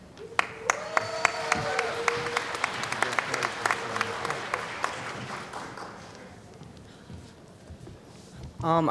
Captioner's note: cheering & Applause